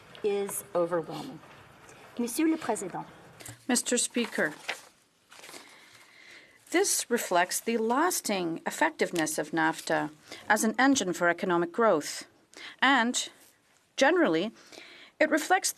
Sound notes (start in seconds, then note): 7.4 speaking French